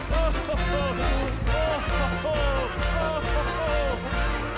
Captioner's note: Santa "Oh, ho, ho, ho-ing"